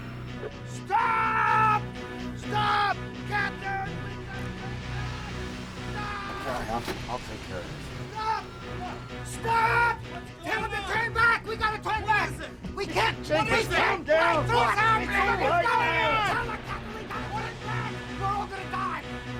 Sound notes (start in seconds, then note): 4.3 yelling Continues